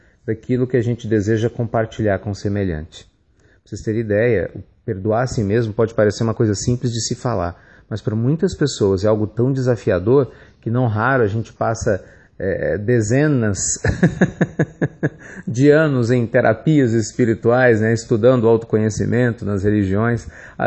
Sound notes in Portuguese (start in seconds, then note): 13.7 risos